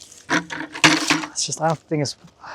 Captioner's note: water splashing; bucket clanging